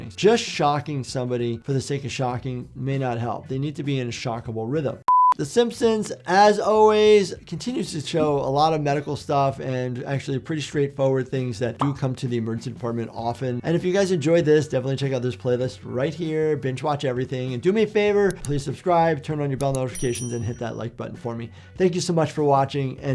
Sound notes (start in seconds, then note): 5.1 one mHz test tone plays; 18.3 mouse button clicks; 19.6 bell dings